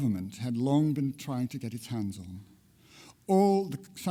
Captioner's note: none